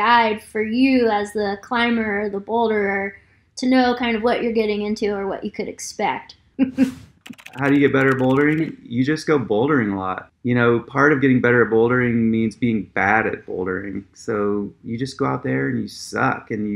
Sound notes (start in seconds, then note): 6.6 laughs; 7.2 keyboard clicking